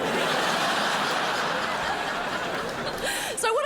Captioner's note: crowd laughs